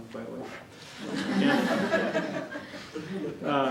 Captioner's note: chuckles